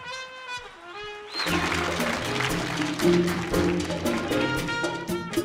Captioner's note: audience applauding